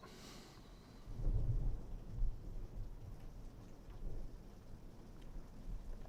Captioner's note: thunder rumbles